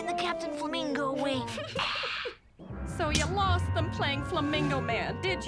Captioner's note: Lizbeth chuckles